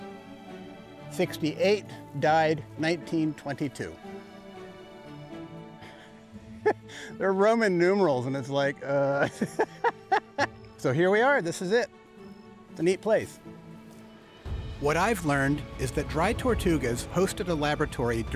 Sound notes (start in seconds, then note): 5.9 chuckles; 9.1 delighted laugh